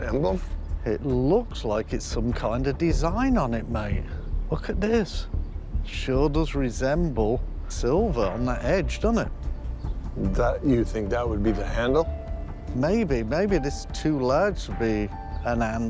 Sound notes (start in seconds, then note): none